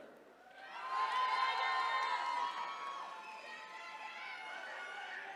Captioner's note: attendees cheering